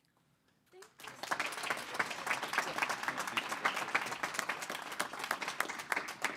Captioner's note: board applauding